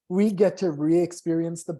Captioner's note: none